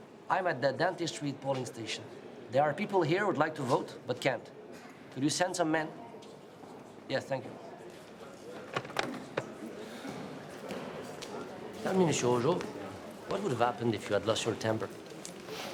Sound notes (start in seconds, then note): 8.7 receiver clicks; 9.1 people chatter indistinctly